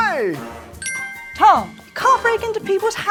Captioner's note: bell chimes